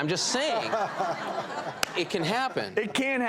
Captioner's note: laughter